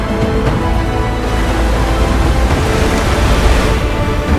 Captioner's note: splash